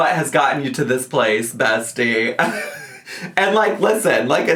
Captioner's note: laughs